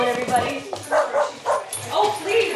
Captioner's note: Biggie barking